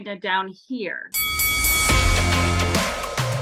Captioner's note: boxing bell rings; energetic music